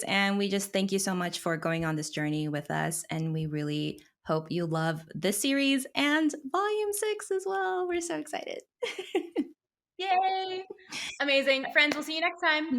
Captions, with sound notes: and we just thank you so much for going on this journey with us. And we really hope you love this series and volume six as well. We're so excited. (laughs) - Yay! Amazing. Friends, we'll see you next time.